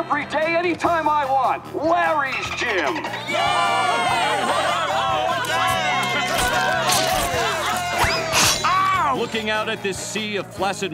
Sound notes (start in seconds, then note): 3.2 cheering